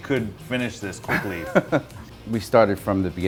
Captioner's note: laughing